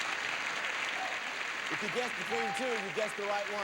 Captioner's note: audience applauding